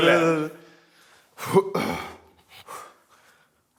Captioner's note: clears throat